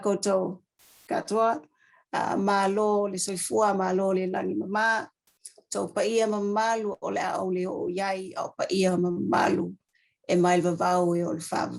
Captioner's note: speaks maori